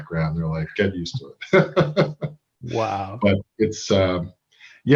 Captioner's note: laughs